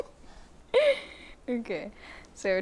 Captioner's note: laughs